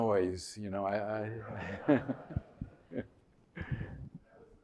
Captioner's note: laughter